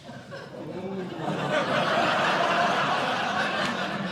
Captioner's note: laughter